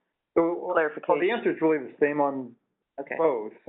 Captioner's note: voiceover